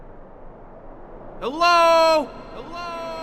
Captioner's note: shouting